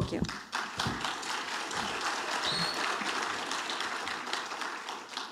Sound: audience applauding

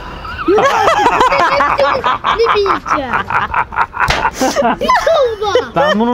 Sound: laughter

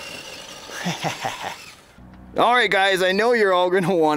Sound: laughs

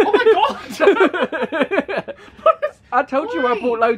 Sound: laughing

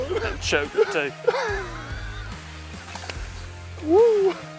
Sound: laughs

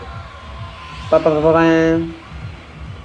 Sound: imitates Horn

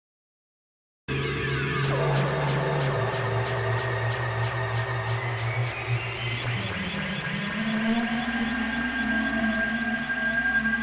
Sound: sound of a strange dream

